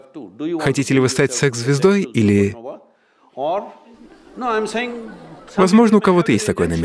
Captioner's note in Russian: смех